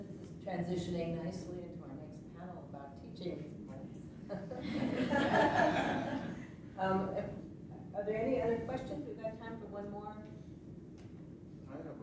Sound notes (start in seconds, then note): 4.3 laughter